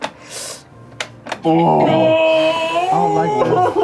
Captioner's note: groans